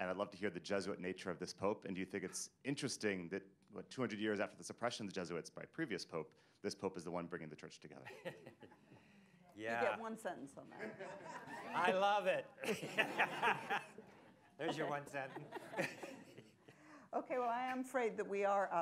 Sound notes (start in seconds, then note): 8.0 laughter; 12.6 laughs; 12.6 laughter